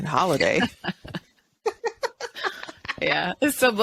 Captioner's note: both laughing